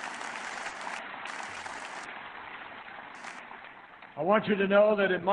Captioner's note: applause